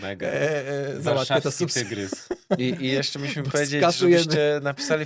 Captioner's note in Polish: śmiech